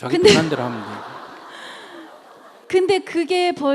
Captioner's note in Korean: 청중웃음